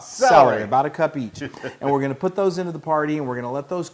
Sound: laugh

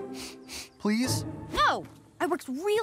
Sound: sniffing

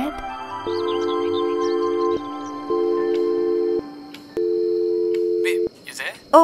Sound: dial tone

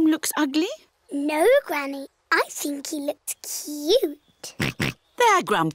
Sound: oinks

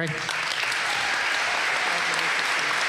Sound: applause

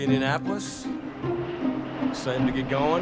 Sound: plane whooshing

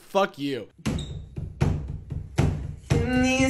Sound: man tapping rhythm

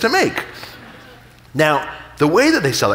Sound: audience laughing

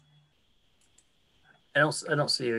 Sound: clicking

